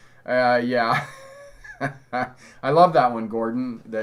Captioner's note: chuckles